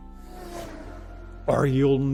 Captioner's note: engine revving